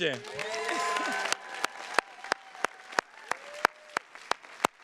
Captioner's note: attendees cheers and claps